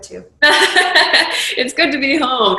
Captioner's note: laughing